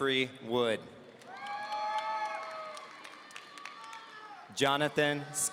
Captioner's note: audience cheering